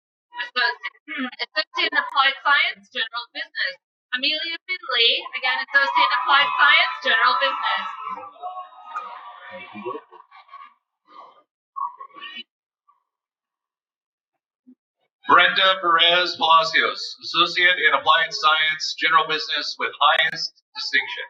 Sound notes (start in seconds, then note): 8.6 cheering